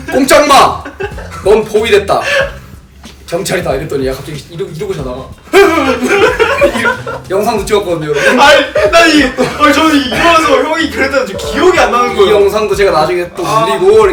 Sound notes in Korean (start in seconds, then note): 5.3 깜짝 놀라는 소리; 5.5 웃음